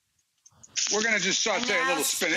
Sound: pan sizzling

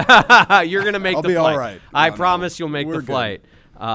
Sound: laughter

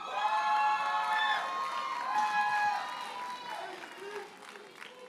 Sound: audience cheers and applauds

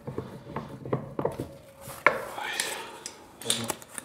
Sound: soft groan

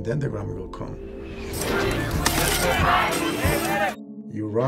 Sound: cameras clicking

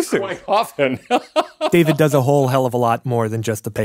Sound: laughs

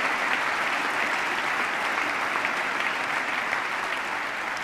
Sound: applause

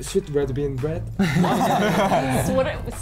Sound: laughs

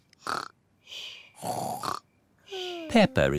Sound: snores

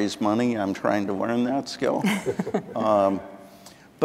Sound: chuckling

